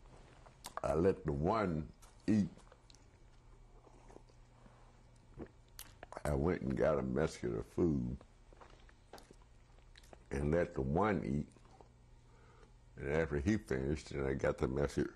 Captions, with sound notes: I let the one eat. [DRINKS] I went and got a basket of food and let the one eat. And after he finished, and I got the mess--